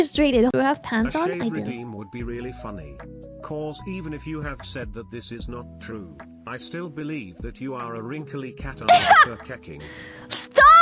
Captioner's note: laughs